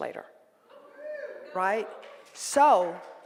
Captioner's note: cheering and applause